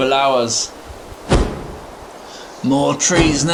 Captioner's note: crow cawing